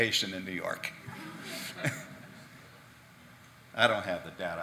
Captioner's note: audience laughing